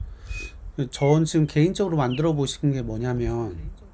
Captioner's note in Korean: 콧방귀